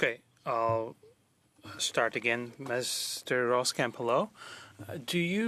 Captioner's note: speaking French